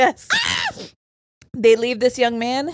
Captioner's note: screams